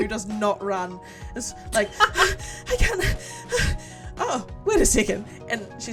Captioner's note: huffing and puffing